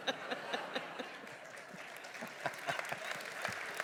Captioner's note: laughter/applause